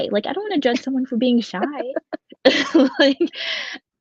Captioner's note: laughs